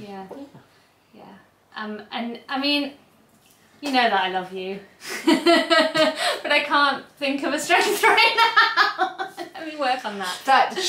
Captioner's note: laughs